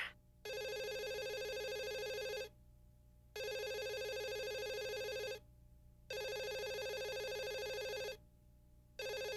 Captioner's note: phone ringing